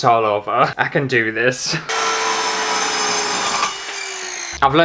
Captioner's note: loud Scary Power Saw Sounds